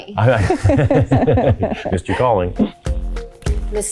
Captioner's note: group laughing